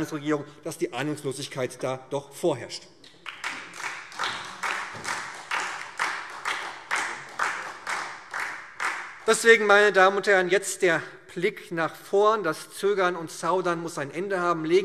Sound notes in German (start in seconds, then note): 3.1 Beifall SPD und DIE LINKE